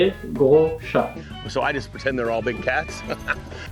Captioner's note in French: rire gras